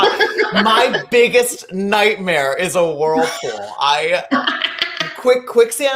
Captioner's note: laughing; laughing